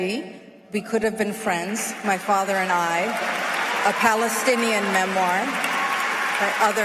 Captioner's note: applause